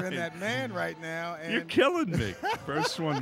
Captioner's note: laughing